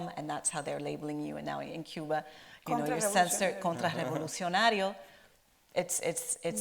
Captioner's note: in Spanish